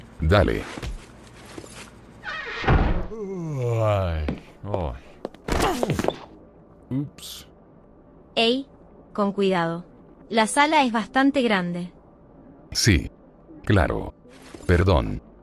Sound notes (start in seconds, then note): 3.1 yawn